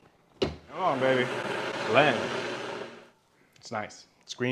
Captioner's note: blender whirring